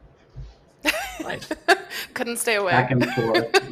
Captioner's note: laughs